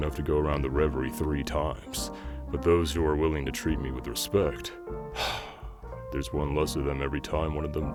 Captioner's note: sigh